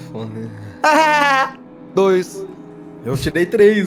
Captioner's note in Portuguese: Risada